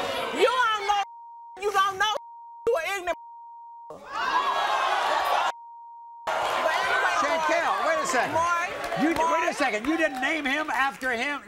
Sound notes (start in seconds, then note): 0.0 audience boos; 4.0 audience yells